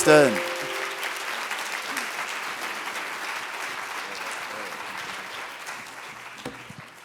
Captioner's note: applause